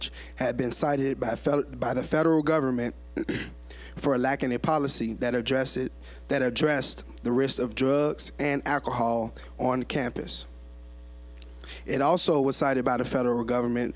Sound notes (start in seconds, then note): 3.1 clearing throat